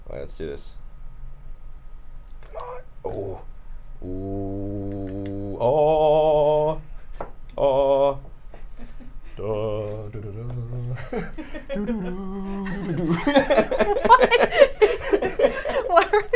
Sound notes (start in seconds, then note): 9.2 humming song; 10.9 everyone laughs; 15.6 laughs